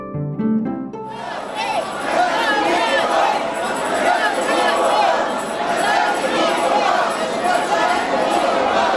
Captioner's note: crowd chanting